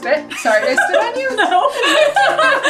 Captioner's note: laughs; both laughing